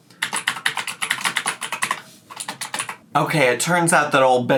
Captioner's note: keyboard keys clacking